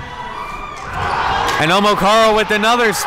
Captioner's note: crowd murmuring; crowd cheering